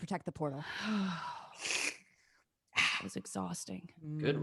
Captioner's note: sighs